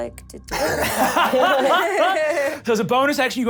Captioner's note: laughs